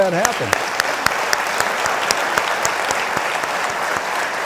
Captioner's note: audience clapping